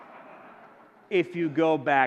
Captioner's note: audience laughing